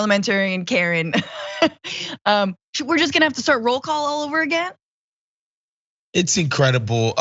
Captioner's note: laugh